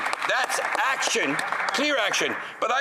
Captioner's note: some Applause